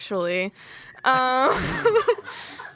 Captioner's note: everyone laughs